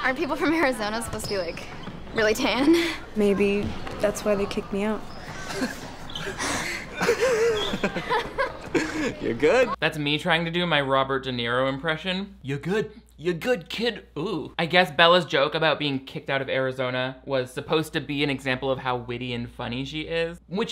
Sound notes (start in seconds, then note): 2.8 giggling; 6.9 laughing